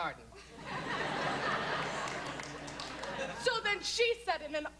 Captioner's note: laughter, scattered applause